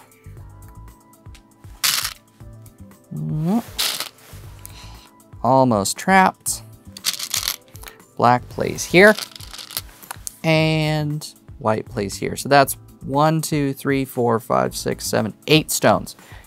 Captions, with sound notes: (stones rattling) Mm... (stones rattling) Almost trapped. (stones rattling) Black plays here. (stones rattling) And white plays here. So that's one, two, three, four, five, six, seven, eight stones